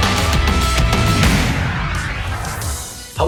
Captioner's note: logo whooshing